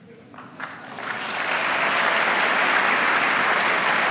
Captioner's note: applause